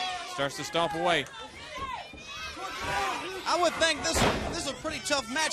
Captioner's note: crowd chatter